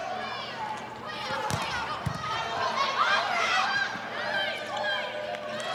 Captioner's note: players shouting indistinctly